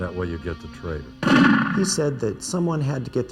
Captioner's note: gunshot